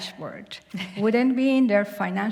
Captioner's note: chuckle